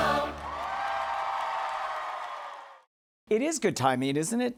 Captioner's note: cheers and applause